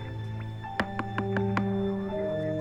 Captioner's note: knocks